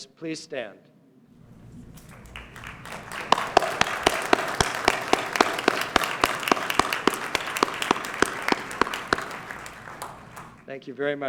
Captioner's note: applause